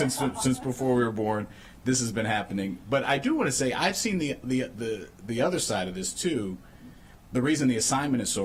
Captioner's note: laughter